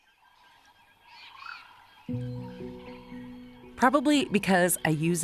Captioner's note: animals chittering